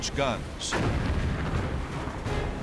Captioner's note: explosions